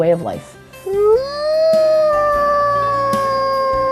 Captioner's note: wolf howling